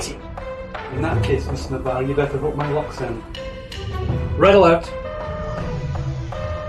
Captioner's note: klaxon